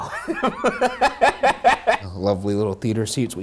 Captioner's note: laughing